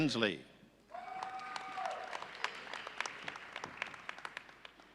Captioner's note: audience cheering